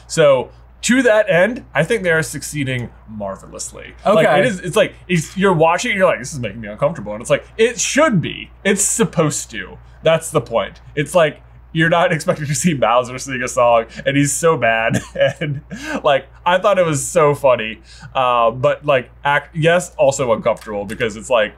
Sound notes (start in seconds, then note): 14.9 laughs